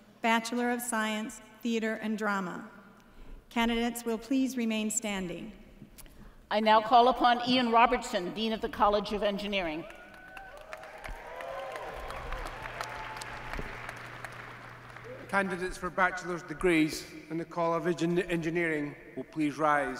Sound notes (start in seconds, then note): 9.8 applause